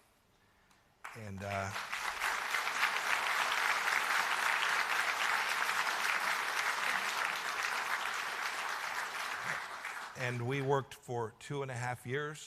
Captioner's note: applause